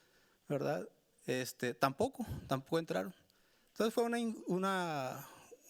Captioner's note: speaking Spanish continues